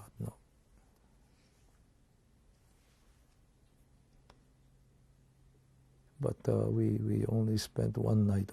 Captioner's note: pauses for 6 seconds